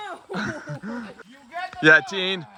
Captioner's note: yelling